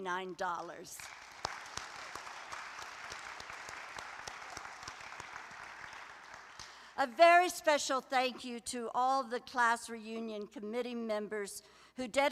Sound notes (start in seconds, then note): 0.9 applause